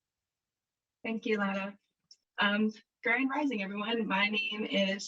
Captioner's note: traditional language